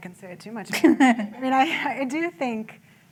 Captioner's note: laughter